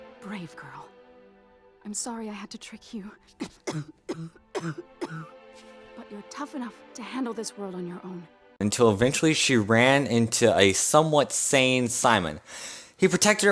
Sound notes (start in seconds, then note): 3.3 sickly Cough; 8.2 voiceover